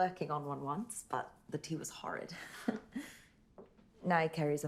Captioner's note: laughs